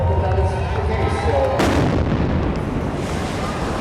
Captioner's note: explosion